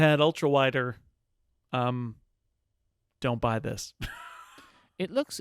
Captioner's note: laughs